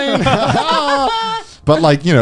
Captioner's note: laughing